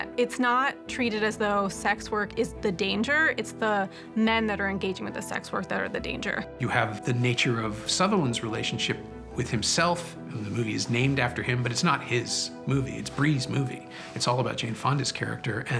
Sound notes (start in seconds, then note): none